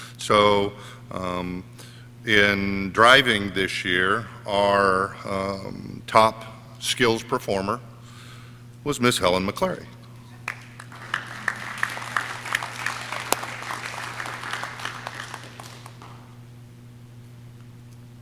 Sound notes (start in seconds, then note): 10.3 audience cheering